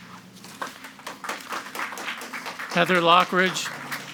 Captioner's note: group clapping